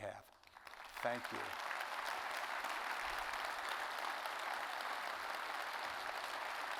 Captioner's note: audience applauding